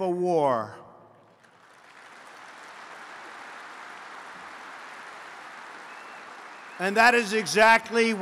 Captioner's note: applause